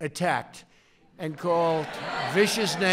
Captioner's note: applause